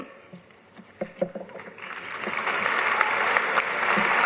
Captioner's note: applause